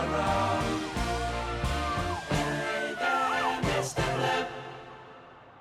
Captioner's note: police sirens